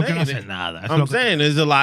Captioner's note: speaking Spanish